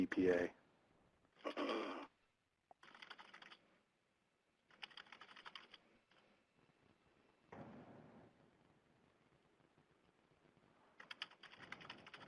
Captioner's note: typing